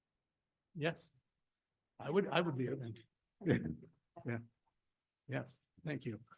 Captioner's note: laughs